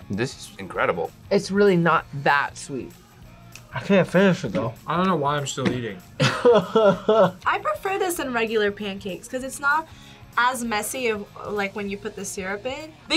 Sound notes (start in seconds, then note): 6.2 laughs